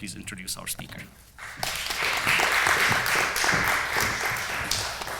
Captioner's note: applause